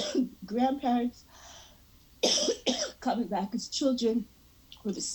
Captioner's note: coughing; coughing